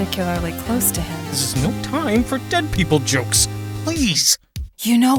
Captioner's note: whispering